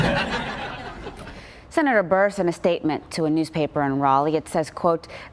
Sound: laughter

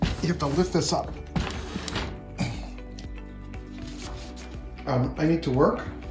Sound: door banging; wood scratching on floor

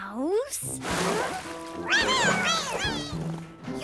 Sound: meowing

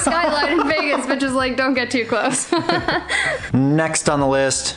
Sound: laughs

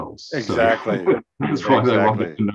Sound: laughs

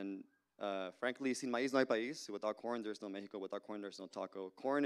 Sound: Spanish language

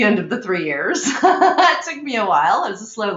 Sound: laughing

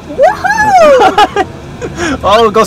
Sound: yelling

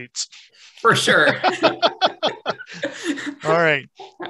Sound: all laughing

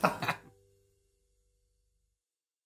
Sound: laughing

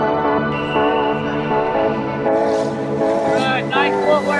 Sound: whistles

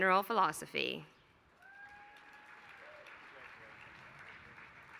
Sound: applause

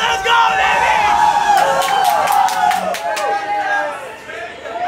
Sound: crowd chants

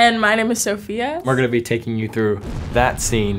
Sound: explosion

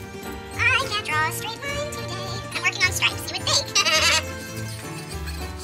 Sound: sped up Chipmunk voice

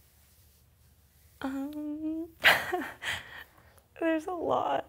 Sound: laughs

